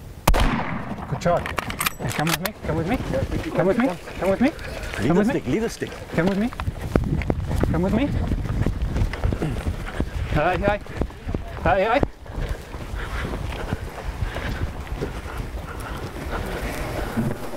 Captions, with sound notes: [gunshot] - Good shot! Come with me. Come with me. Come with me. - Leave the stick. - Come with me. Come with me. [breathing]